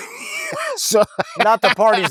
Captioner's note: laughing